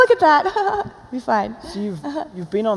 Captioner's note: chuckles